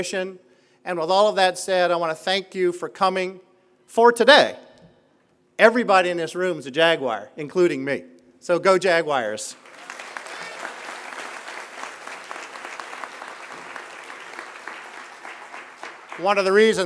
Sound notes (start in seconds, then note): 9.5 applause